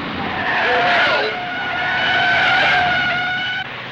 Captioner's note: tires squeal